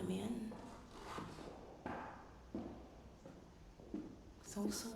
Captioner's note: continuous pacing footsteps